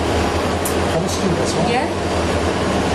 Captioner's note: mechanical whirring muffling speech